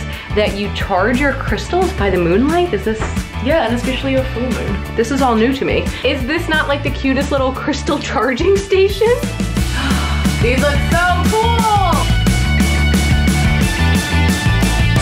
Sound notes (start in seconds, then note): 9.6 gasps; 12.1 energetic music